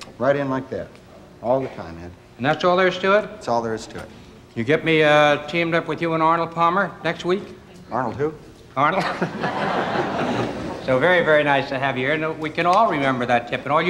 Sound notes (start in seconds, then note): 8.9 laughs; 10.1 audience applauding